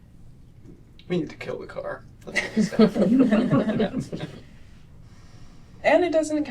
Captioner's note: laughter